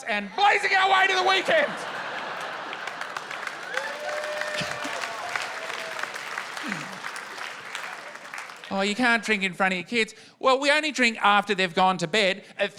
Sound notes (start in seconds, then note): 1.0 laughter, applause and cheering